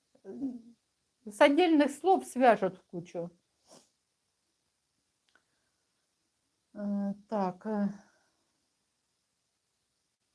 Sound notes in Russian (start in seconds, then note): 5.6 фыркает